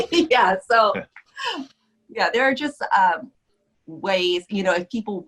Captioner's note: laughs